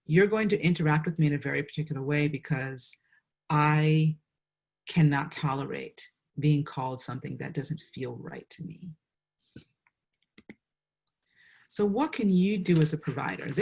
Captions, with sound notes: you're going to interact with me in a very particular way because I can not tolerate being called something that doesn't feel right to me. (mouse clicks) So what can you do as a provider?